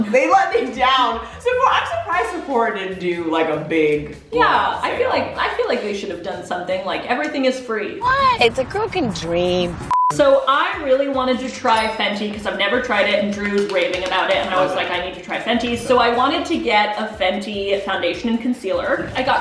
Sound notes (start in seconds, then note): 9.6 beeping; 13.2 clapping